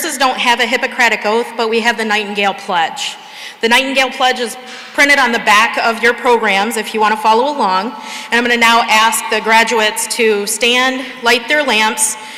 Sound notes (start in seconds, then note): none